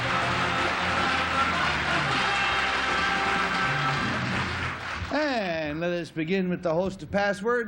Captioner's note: applause; theme music